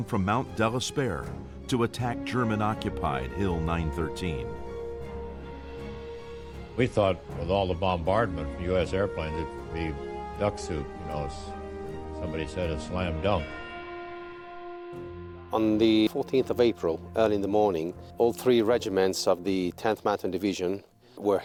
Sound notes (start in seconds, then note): 6.9 voiceover; 14.2 light instrumental music; 15.7 voiceover